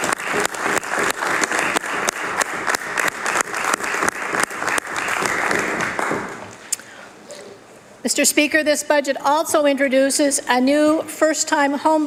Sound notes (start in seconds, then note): 6.0 applause